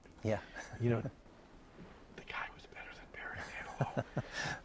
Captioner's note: whispering